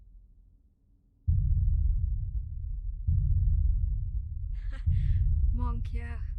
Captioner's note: giggling